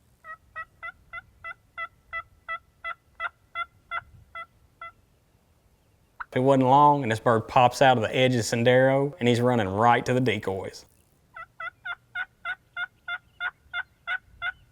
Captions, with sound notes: (box call cackling) It wasn't long and this bird pops out of the edge of Sendero and he's running right to the decoys. (turkey calling)